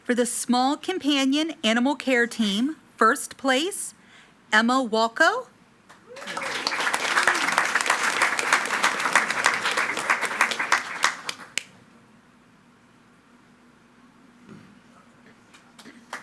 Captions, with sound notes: For the small companion animal care team. First place, Emma Walker. (attendees clapping and cheering)